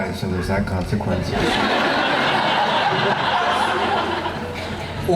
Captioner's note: laughing